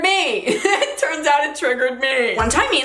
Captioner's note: laughs